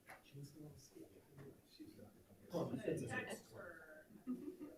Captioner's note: people chatter